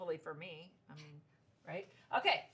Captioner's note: giggles